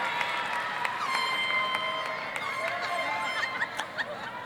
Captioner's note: air horn honking loudly; cheering